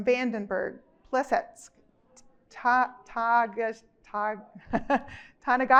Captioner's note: chuckles